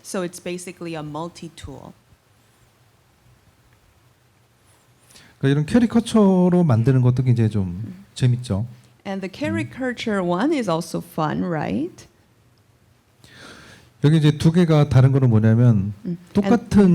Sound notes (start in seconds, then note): 5.3 speaking korean; 13.5 speaking korean